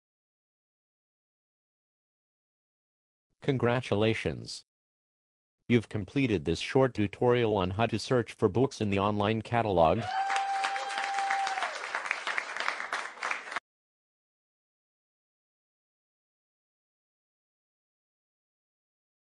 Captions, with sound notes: [pause] Congratulations. You’ve completed this short tutorial on how to search for books in the online catalog. [applause]